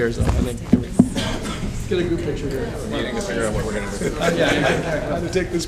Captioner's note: laughter